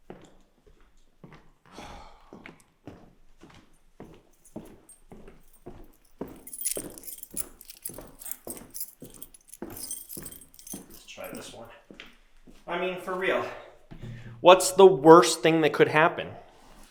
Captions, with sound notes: (Jacob sighs) (keys clanging) Let's try this one. I mean, for real, what's the worst thing that could happen?